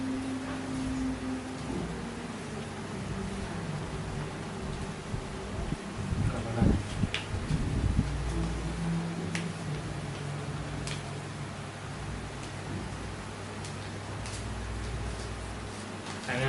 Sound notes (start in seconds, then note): 8.1 fire crackling